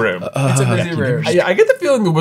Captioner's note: faltering